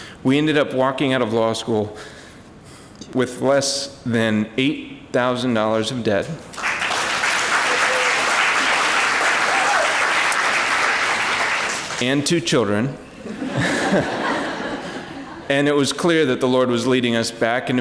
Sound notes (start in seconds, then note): 6.5 applause; 13.2 laughter